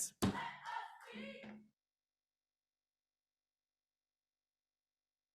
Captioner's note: gavel taps